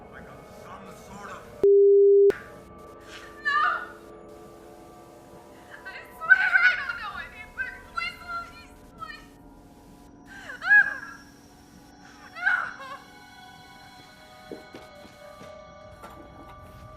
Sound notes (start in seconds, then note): 10.2 woman sobs; 13.9 haunting music